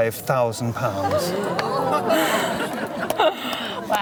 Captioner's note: crowd gasps